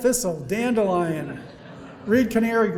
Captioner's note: audience laughing